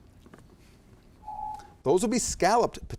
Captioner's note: timer beeps